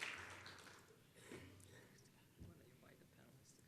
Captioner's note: applause